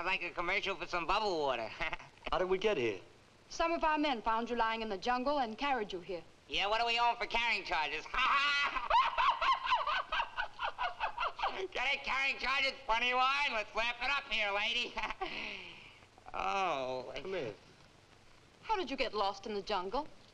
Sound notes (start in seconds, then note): 1.7 laughs; 8.0 laughs; 15.0 chuckles nervously